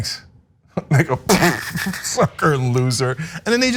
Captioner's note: laugh